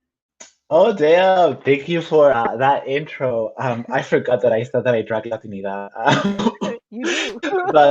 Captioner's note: laughs